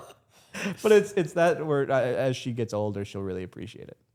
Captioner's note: Stephanie and Dylan laughing